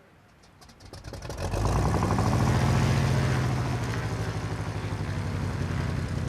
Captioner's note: engine sputters to life